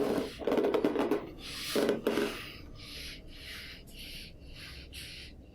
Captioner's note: squeaking